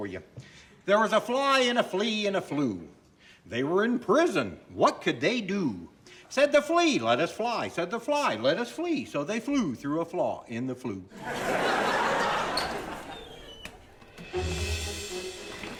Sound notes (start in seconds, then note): 11.1 audience laughing; 12.5 door squeaks; 14.0 bright pleasant music